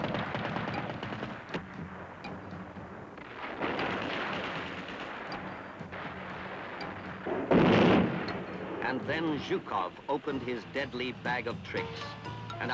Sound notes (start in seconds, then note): 3.6 gunfire continues; 5.0 suspenseful music